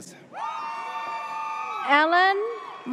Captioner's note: audience cheers